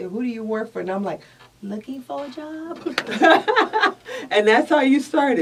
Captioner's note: laughs